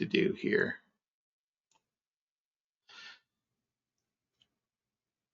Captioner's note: mouse clicking